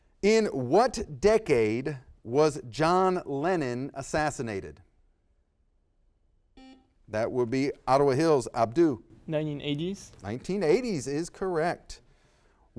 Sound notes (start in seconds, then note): 6.5 buzzer beeps